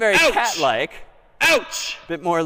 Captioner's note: ouching continues